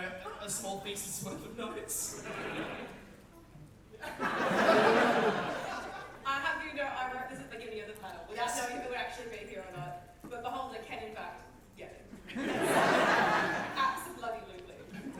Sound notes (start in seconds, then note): 4.0 audience laughter